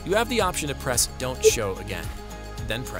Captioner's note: tone beeping